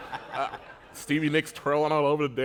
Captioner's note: laughter